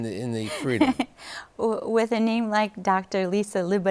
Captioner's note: laughter